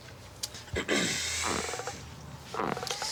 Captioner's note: clears throat